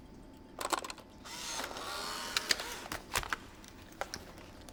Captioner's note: camera whirring